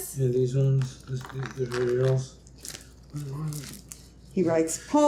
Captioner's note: murmuring